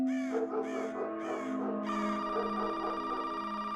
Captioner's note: dog barks